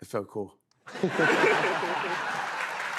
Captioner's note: laughter, applause